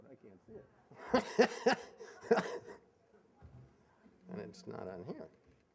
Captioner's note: laughing